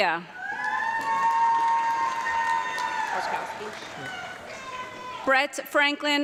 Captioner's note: audience clapping and cheering